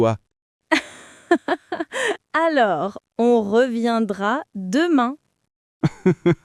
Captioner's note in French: rire; rire